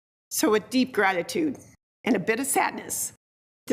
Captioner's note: none